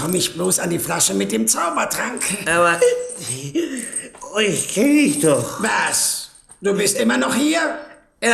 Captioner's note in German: gelächter